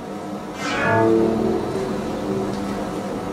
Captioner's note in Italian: suono fantascientifico